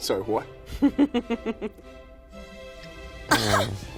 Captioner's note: laughing